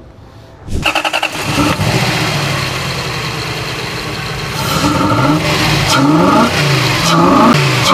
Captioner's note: machine groaning